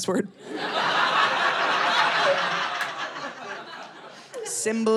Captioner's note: audience laughing